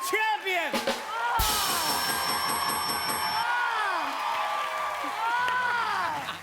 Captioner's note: ding!